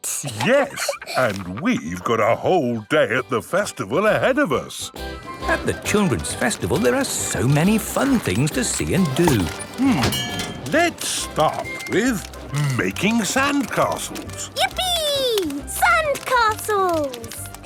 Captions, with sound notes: - Yes, and we've got a whole day at the Festival ahead of us! - (festival buzz and music) - At the Children's Festival, there are so many fun things to see and do. - Hmm. Let's start with Making Sandcastles! - Yippee! Sandcastles!